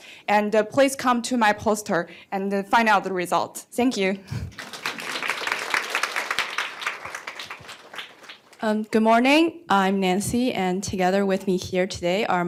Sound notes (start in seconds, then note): 4.4 applause